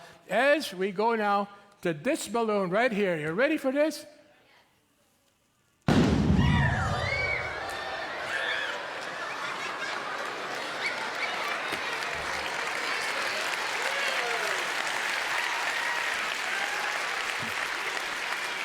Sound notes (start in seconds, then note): 5.5 audience yelps; 5.9 loud boom; 7.5 audience laughs; 11.9 audience claps and some holler, "Whoo!"